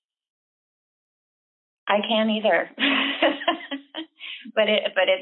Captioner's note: laughter